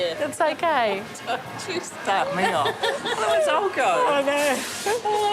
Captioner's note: laughs